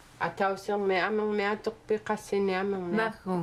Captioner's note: speaking Inuit